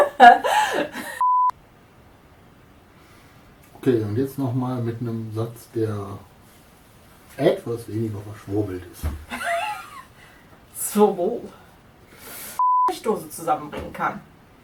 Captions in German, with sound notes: *lacht* [Aus dem Off] Ok und jetzt nochmal mit einem Satz, der etwas weniger verschwurbelt ist. *lacht* Zwirbel... ...Blechdosen zusammen bringen kann.